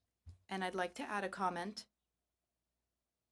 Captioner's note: speaking FRENCH